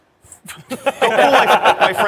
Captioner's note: laughter